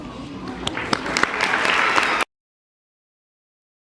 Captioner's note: applause